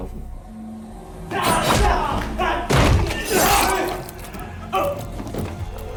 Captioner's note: yelling